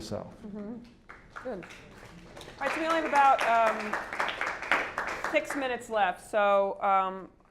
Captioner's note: applause